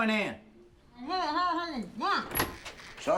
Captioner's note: mumbles